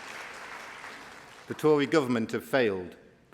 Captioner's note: applause